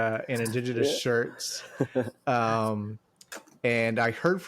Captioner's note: chuckles